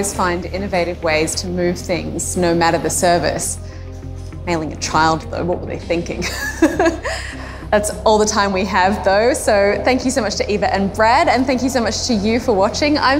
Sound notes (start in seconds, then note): 6.2 laughs gently